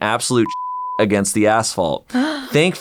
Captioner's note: beeping